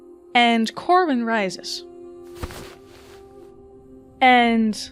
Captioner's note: cloth rustling